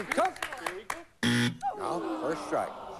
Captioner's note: buzz